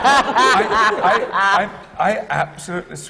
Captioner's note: laughter